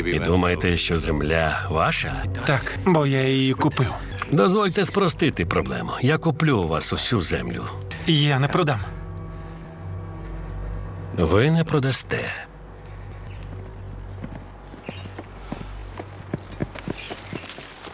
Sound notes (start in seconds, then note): 13.0 hooves clopping